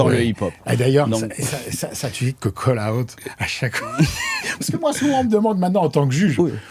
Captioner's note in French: rires